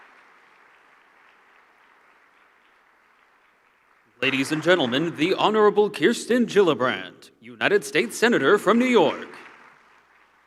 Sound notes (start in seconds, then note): 4.1 applause